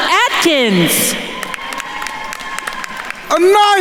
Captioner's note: attendees cheering and applauding